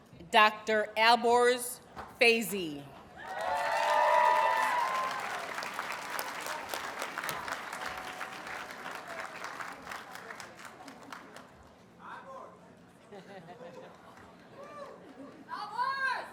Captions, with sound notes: Dr. Alborz Feizi. [Audience cheers and applauds]